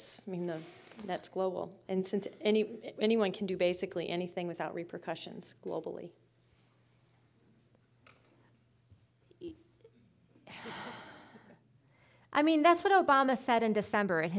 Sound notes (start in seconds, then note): 10.4 sighing